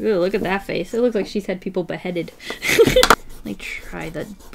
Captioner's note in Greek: γέλιο από τη μύτη